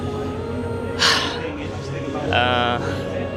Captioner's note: sighs